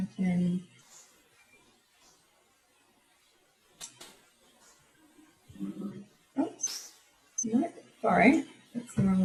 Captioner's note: silence